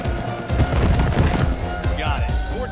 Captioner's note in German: Krachende Laute